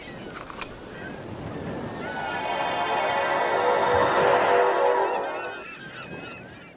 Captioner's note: transporter Sound